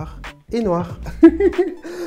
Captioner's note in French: rires